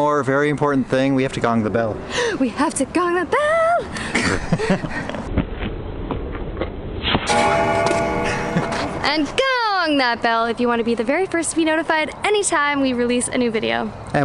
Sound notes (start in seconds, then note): 7.2 bell gongs